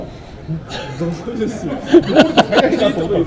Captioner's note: laugh